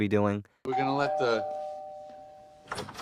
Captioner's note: doorbell rings